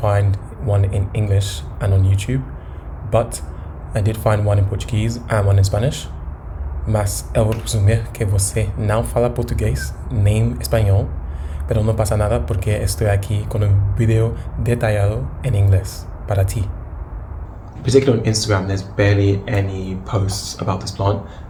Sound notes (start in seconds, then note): 11.7 Spanish